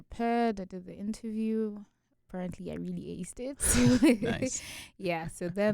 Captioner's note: both chuckle